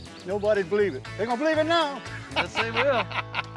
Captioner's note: laughing